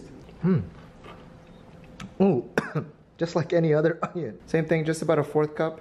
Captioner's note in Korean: 콜록